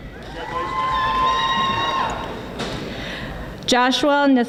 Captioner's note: audience applauding